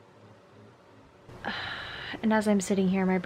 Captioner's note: sighs tiredly